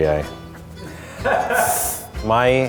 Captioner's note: laughing